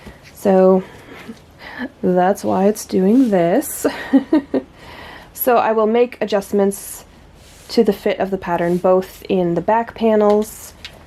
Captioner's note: laughs